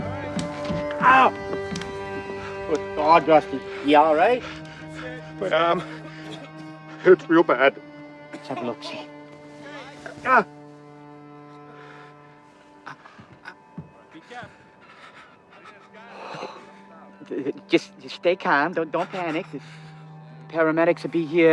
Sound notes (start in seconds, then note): 3.6 Rusty panting; 11.3 groaning